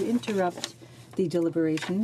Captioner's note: speaking in French